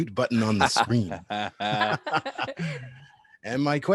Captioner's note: laughter